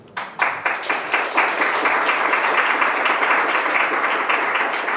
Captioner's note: audience applaud